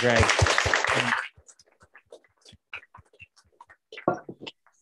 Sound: applause

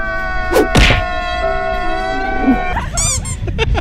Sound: sad music, crying; whacking; squeak

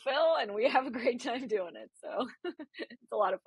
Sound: laughs

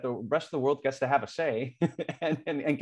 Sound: laughter

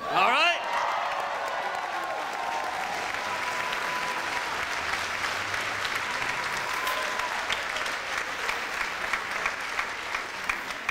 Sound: audience cheers

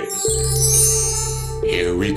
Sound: chiming

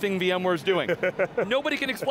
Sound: laughing

